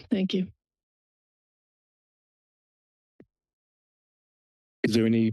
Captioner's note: silence